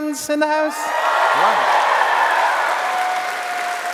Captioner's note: applause